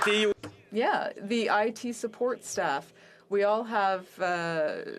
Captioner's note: applause